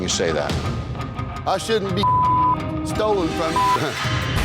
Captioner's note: beep